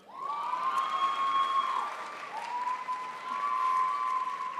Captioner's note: crowd applauds